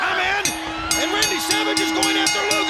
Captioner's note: bell ringing